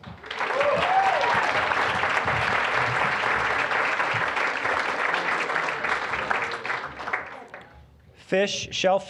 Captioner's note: applause